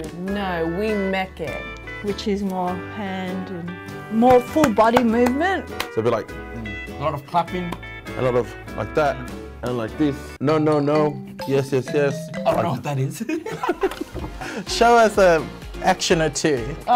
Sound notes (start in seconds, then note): 4.2 clapping; 13.2 both laughing